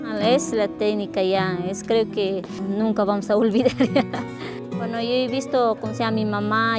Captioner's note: laughs